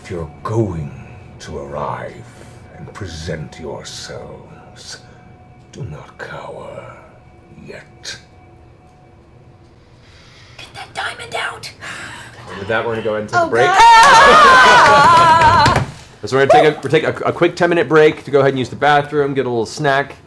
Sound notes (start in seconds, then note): 13.6 shouting